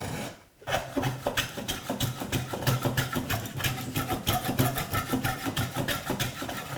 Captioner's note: plane on wood continues rhythmically scraping